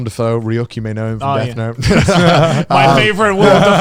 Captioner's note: laughing